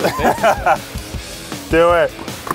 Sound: laughs

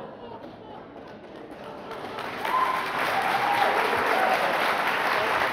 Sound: audience laughs; audience applauds

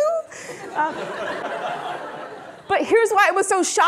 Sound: audience laughing

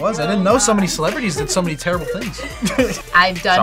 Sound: laughs

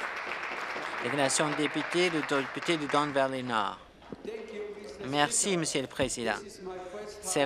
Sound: some applause

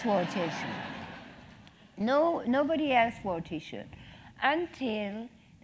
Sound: laugh

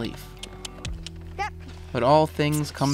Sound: clicking with mouth

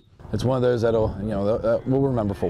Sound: sounds of football practice

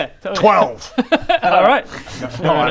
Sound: worrying laugh

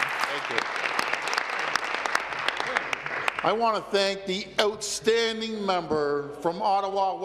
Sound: applause

